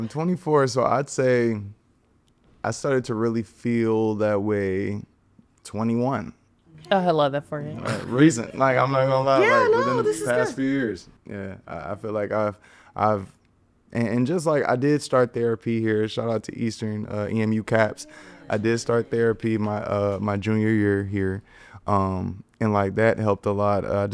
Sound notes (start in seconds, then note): 7.8 podcasters chuckling